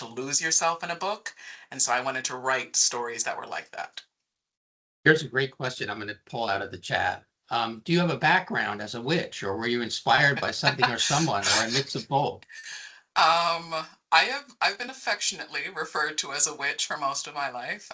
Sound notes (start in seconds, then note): 10.2 laughing